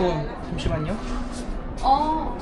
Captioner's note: in a hurry, speaking in native language